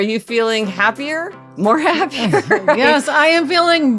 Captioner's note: laughing